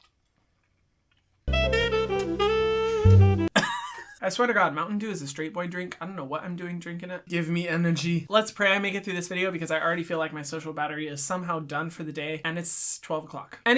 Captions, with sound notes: (soft jazzy music) (coughs) I swear to God Mountain Dew is a straight boy drink. I don't know what I'm doing drinking it. Give me energy. Let's pray I make it through this video because I already feel like my social battery is somehow done for the day, and it's 12 o'clock.